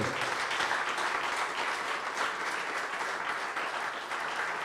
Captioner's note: audience applauding